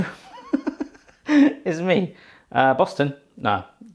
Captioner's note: laughing